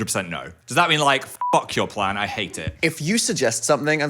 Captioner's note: beep